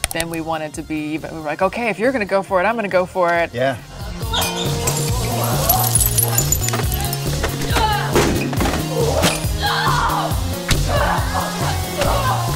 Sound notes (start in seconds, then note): 4.5 glass shatters; 9.0 yells; 10.8 screams